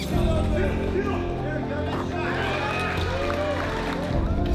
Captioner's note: cheering